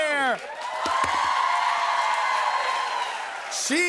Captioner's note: cheers and applause